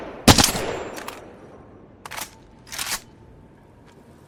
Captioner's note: sound of shooting; sound of shooting